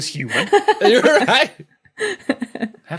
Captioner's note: laugh